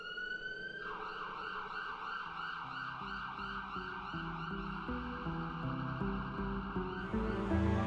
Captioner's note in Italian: sirene udibili